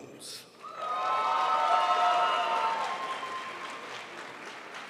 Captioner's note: crowd applauds